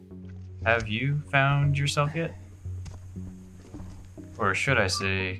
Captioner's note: breathing heavily